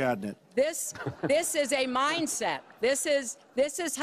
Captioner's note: laughter